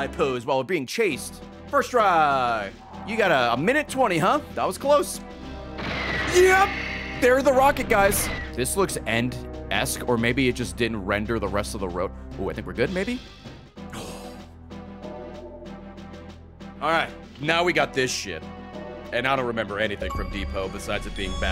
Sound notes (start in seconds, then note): 13.9 sigh of relief